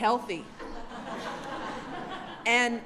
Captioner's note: laughter